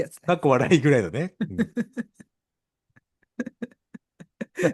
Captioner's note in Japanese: 笑い